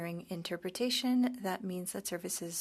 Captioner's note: speaking French